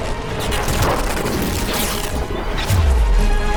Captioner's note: crackling